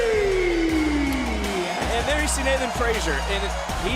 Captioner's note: cheers